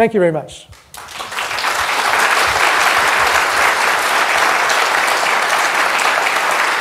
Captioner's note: applause